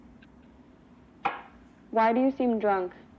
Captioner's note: glass clinks on tabletop